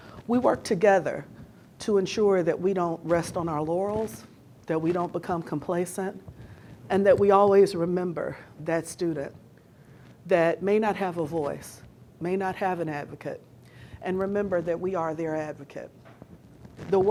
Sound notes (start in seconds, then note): none